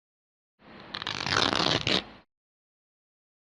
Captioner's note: clothes tearing sound